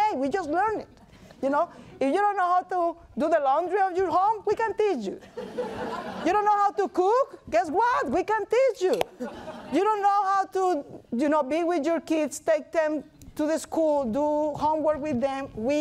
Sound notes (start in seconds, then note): 5.3 laughing